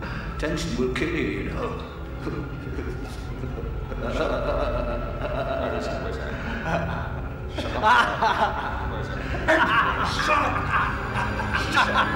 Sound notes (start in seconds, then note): 3.6 laughing; 6.7 Brian laughing